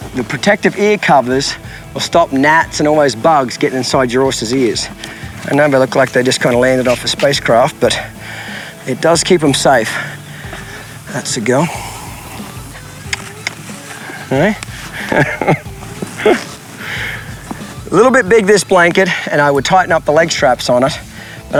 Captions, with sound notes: The protective ear covers will stop gnats and all those bugs getting inside your horse's ears. I know they look like they just kinda landed off a space craft but it does keep them safe. That's a girl. (mouth clicking) Okay, (chuckling) little bit big this blanket, and I would tighten up the leg straps on it